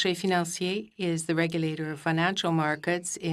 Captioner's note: speaking French